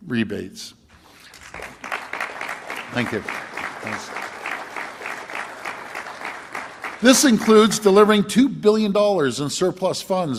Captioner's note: applause